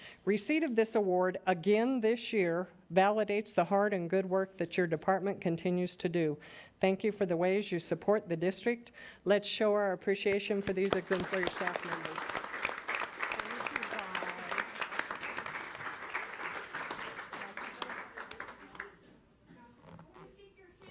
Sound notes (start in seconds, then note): 12.6 audience applauding